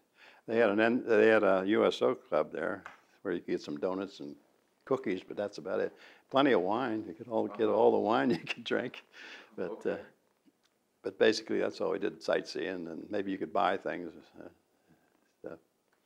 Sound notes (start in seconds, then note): 8.9 laughs